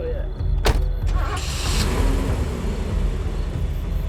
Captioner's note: engine starting; intense music